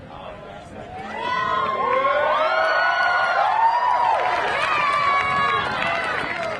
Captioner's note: crowd cheering; crowd applauding